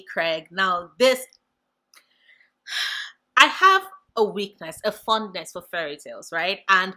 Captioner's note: deep breath